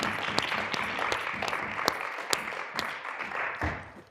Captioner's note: people clapping